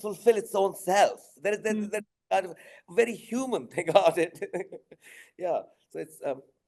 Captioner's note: chuckling